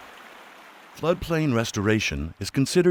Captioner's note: voiceover